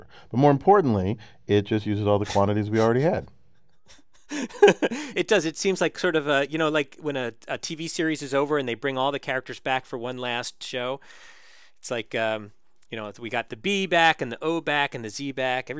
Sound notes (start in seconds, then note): 3.6 laugh